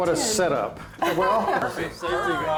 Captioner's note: laughs